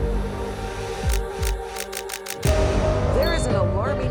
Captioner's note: camera shutter clicking